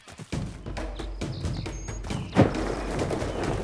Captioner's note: none